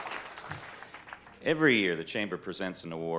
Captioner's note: on microphone